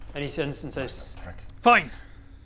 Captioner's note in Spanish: susurra